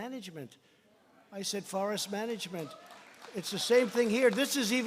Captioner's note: applause